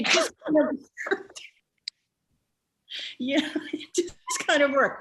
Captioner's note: Jennifer laughs